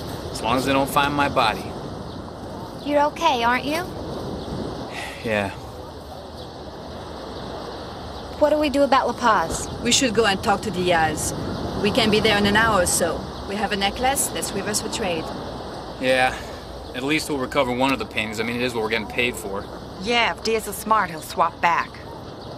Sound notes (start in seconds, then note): 4.9 sighs